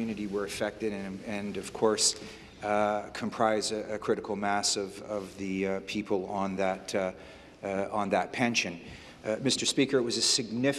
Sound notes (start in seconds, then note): none